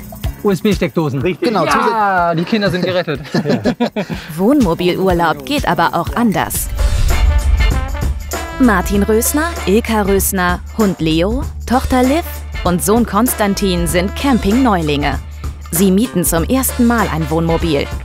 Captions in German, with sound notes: USB-Steckdosen. - Ja, die Kinder sind gerettet! (Sie lachen.) Wohnmobilurlaub geht aber auch anders. (Locker-lässige Musik) Martin Rösner, Ilka Rösner, Hund Leo, Tochter Liv und Sohn Konstantin sind Campingneulinge. Sie mieten zum ersten Mal ein Wohnmobil.